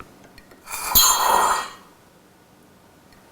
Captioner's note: hissing, clinking